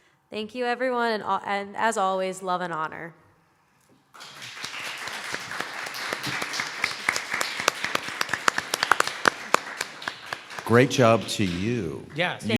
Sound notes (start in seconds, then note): 7.5 applause